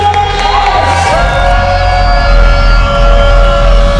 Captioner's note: crowd cheering